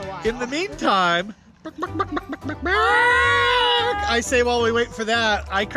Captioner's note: clucking noises